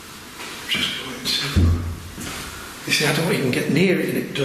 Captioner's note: loud thumping